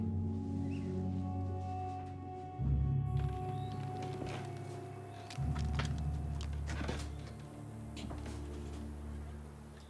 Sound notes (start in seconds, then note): 3.1 birds trilling; 3.1 insects chirping